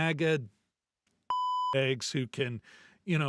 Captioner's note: beep